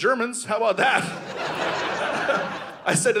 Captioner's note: audience laughing